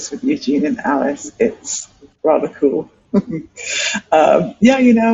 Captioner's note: laughs